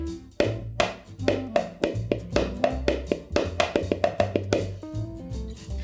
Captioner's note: tappy tappy tappy